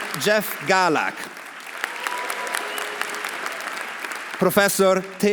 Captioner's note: audience applauding; audience cheering